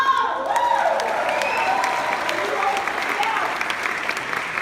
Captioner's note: clapping